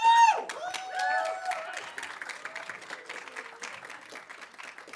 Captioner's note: audience cheering